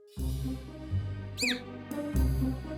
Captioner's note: babbling; yawning